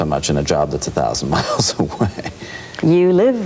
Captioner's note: laughs